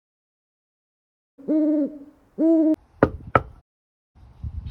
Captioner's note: owl "whoo whoo" call, followed by a knock